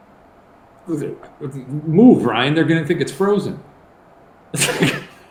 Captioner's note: stammering; laughing